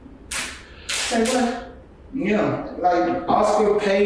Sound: nails tapping

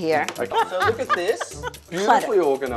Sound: woman laughing

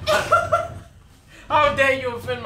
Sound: gagging; laughing

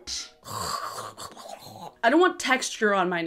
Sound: gagging in disgust

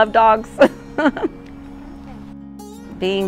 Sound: giggle

